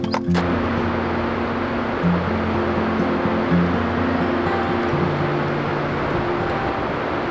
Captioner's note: gentle acoustic music; water rushing